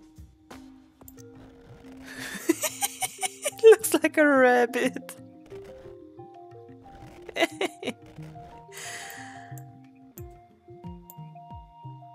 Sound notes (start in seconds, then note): 2.2 laughs